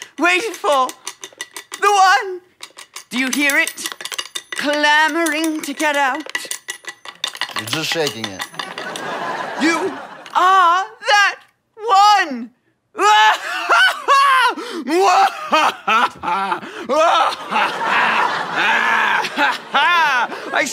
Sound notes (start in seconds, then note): 8.6 audience laughter; 13.0 laughs triumphantly; 14.9 laughs wickedly